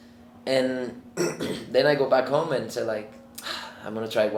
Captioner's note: sighs